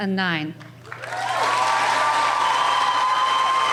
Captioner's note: cheering